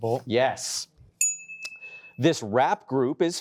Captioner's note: correct chime